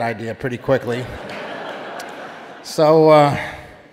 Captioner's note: audience laughing